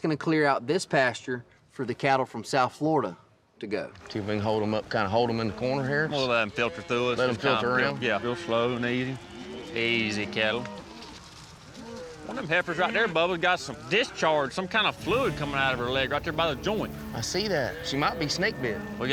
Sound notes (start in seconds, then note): 8.7 hoofbeats